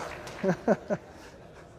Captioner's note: laughter